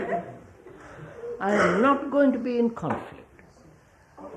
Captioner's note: laughter